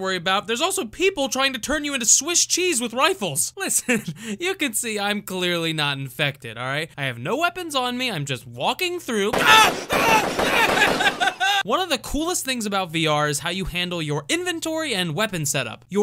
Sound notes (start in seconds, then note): 9.3 gunshots